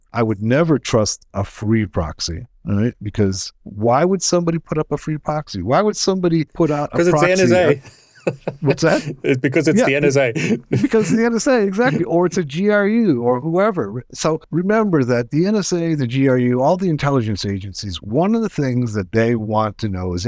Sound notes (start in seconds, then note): 6.6 laughs